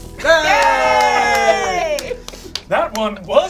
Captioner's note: speaking foreign language; all cheer